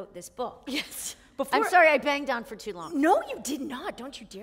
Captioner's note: chuckle